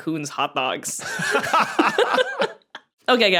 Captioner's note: laugh heartily